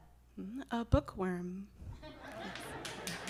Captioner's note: laughter and applause